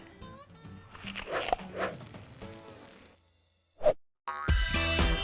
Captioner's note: apple crunching; upbeat music